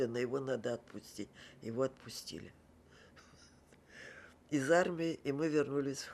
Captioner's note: laughing